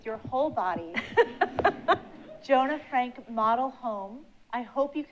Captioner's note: laughs